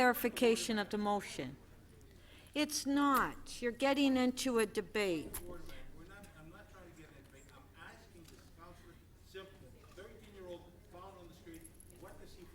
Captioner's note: speaker off mic